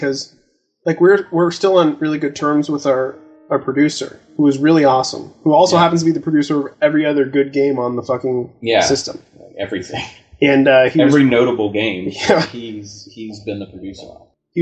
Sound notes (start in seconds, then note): 9.4 chuckling